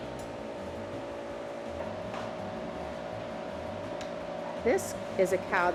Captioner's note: machinery hums